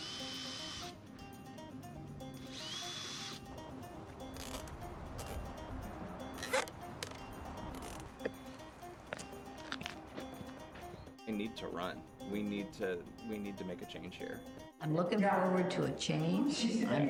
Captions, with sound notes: (drill whirring) (tape stretching) We need to run, we need to make a change here. - I'm looking forward to a change.